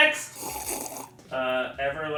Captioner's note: sips fizzy water